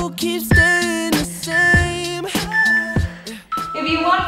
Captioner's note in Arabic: صوت المؤقت